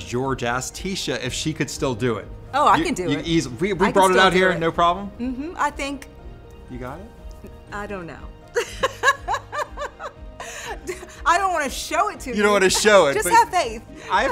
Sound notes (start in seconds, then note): 8.5 laughs